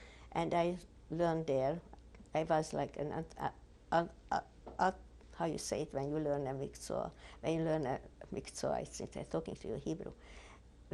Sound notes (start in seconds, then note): 6.8 hebrew